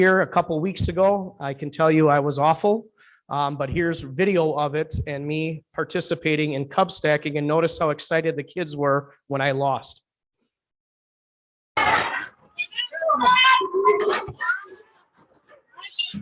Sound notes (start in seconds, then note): 11.8 kids chattering